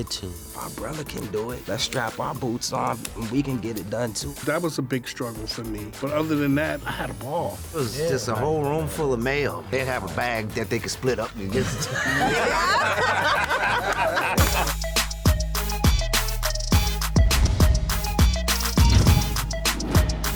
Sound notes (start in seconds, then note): 11.5 laughter; 13.9 upbeat music